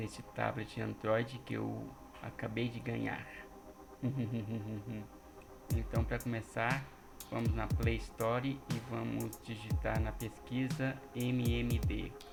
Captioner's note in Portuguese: risos